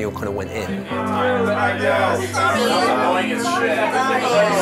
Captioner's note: group cheers around him